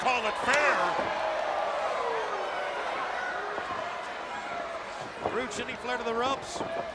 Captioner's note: crowd chatter